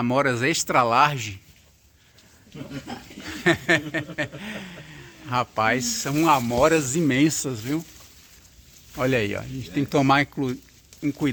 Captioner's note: laughs